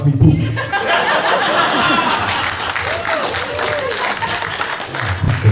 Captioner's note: laughter mixed with applause